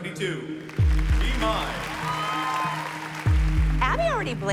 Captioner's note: cheering and applause